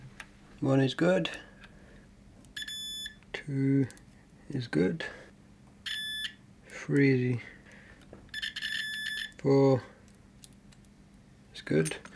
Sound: beep

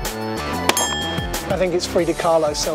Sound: bell rings

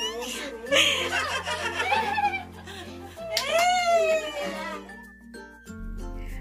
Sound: laughing

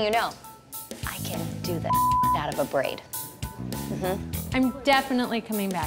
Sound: beep

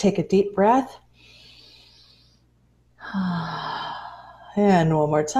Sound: inhales and exhales

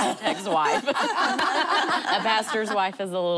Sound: laughing

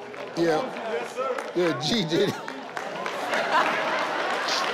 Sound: laughing

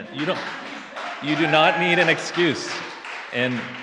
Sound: audience laughs and cheers

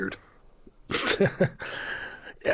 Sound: laughter

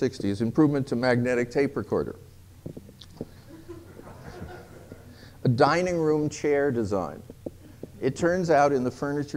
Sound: laughter

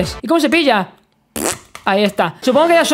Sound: fart sound

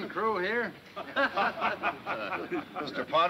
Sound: laughing

